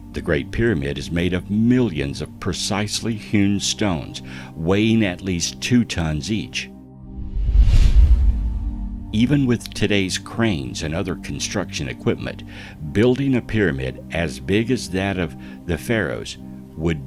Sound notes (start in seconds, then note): 7.0 air whooshing